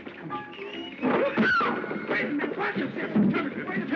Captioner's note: scream